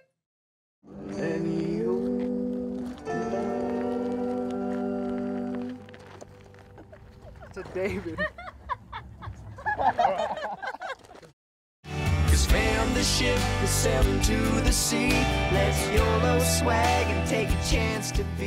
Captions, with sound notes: Milennial Love It's David *laughter*